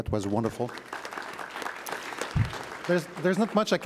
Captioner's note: audience applauds